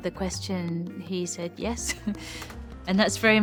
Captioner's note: chuckles